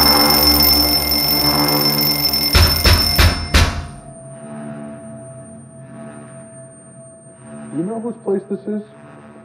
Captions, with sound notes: [KNOCK, KNOCK, KNOCK, KNOCK] You know whose place this is?